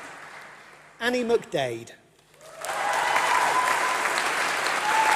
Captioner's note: applause